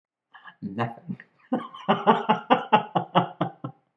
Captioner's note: laughter